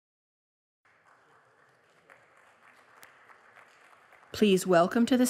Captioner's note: applause